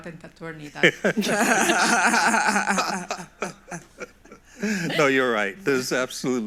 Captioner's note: everyone laughs